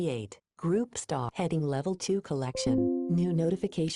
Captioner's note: computer chimes